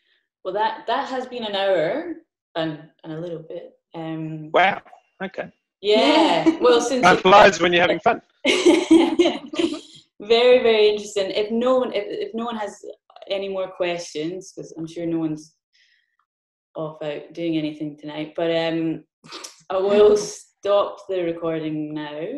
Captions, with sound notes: Well, that has been an hour and a little bit. - Wow, okay. - Yeah. - Yeah. - Time flies when you're having fun. - (laughs) Yeah. - Very, very interesting. If no one has any more questions, because I'm sure no one's off out doing anything tonight, but I will stop the recording now,